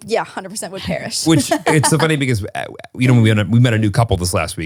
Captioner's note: laughs